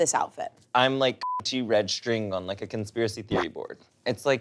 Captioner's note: beep